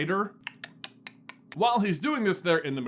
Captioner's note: Radcliffesque clicking sounds